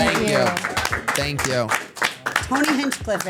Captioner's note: everyone claps